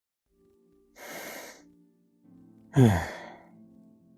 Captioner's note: sigh